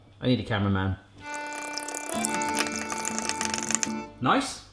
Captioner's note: accordion music; rattling